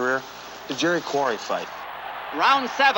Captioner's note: crowd cheering